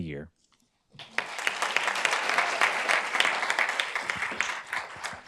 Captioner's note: group applauds